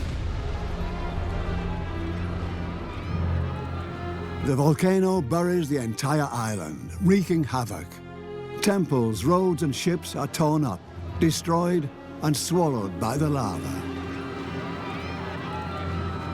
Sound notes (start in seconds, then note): 0.2 dramatic music; 2.1 cries of distress; 13.5 cries of panic